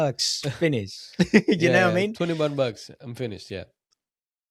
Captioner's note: laughs